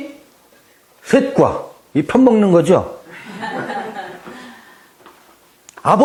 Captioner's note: laughs